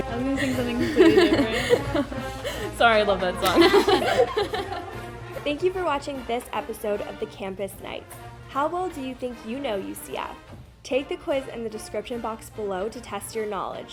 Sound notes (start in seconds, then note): 0.0 marching band plays; 2.2 laughter; 3.4 laughs